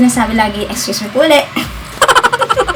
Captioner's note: clearing throat